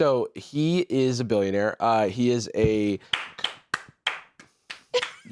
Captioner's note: clapping